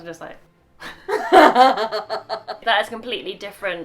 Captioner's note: laughing